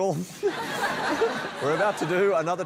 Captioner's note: laughter